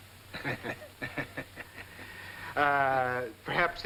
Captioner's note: both laughing